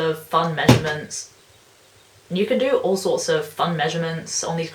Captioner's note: chair breaks